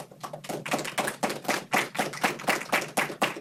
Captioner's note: audience applauding